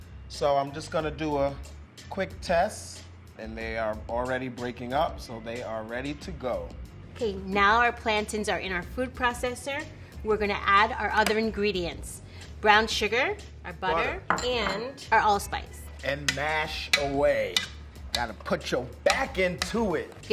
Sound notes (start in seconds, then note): 19.0 mashing potatoes